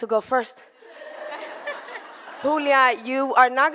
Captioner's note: audience laughter